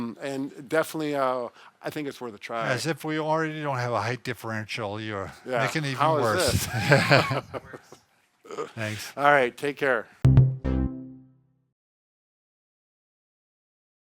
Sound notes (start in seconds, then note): 6.2 laughing; 10.2 outro music